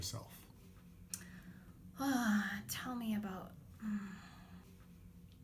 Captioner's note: sighs